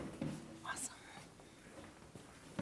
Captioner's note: whispers